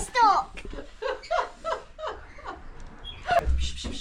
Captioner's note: laughter